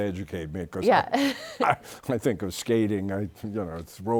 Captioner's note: chuckles